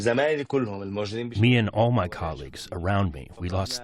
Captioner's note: through translator